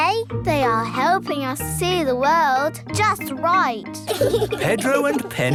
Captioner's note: giggling